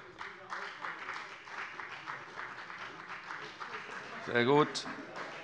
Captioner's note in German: Beifall bei der FDP